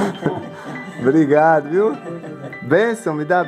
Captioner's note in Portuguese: Risos